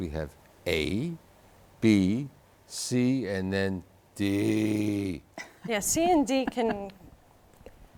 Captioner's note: laughing